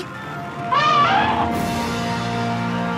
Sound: elephant horn

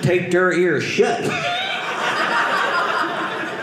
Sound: audience laughing

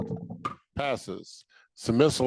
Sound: gavel thudding

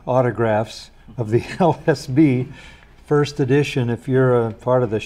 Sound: laughs

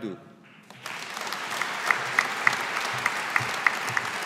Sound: audience applauding

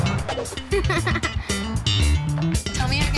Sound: kid laughing

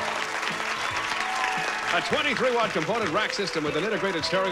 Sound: audience applauding

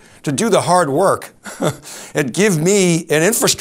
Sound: laughs

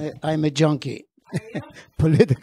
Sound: laughing

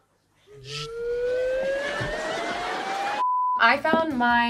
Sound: slide whistle rising in pitch

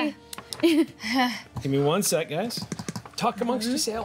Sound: laughing; drumming

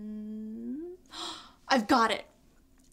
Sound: gasps

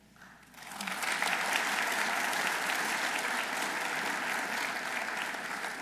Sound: audience applauding

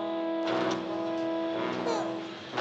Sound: baby crying

